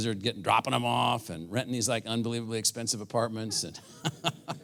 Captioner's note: laugh